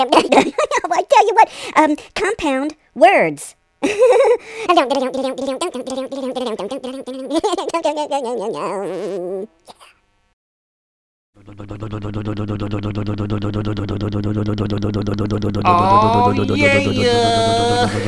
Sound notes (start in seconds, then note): 4.8 humming; 11.4 motor noise